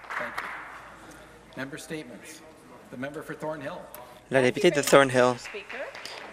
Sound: some Applause

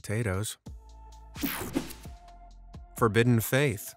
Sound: screen whooshing

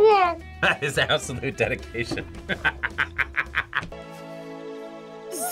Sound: laughs

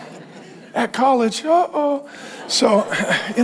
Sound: congregation laughing

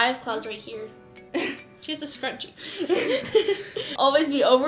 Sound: laughter

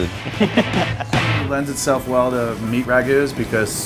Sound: upbeat music; laughing

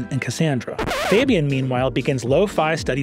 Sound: record scratches

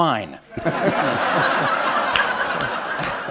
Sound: laughter

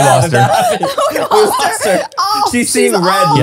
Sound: everyone laughs

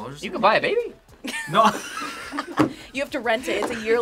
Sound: group laughs

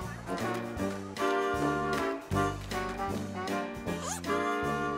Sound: sighing

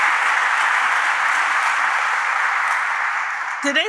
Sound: applause

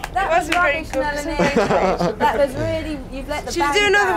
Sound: laughs

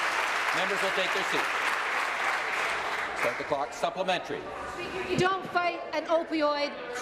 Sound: some Applause

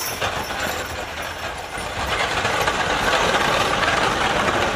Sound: wagon rattles

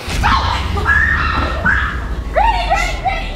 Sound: granny screaming

